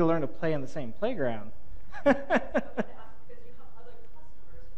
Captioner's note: laughs